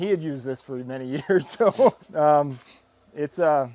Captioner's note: laughing